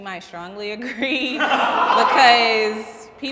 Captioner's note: comics laughing